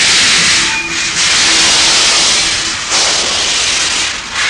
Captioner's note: gears screech